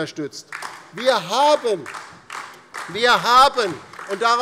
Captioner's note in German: Beifall DIE LINKE und vereinzelt SPD